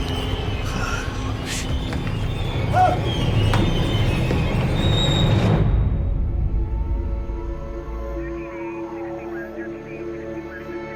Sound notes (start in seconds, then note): 0.3 gasping; 2.7 screams